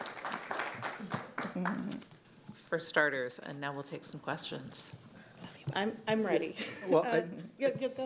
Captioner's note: applause